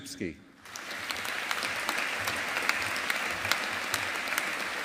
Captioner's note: audience applauding